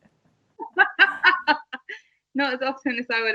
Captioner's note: both laugh